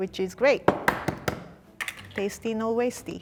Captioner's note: taps egg on table